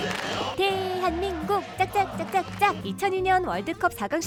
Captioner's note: clap x5